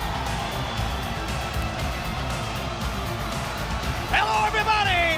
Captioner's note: upbeat music; audience cheers